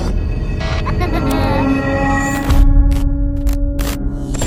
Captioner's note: laughing; ominous music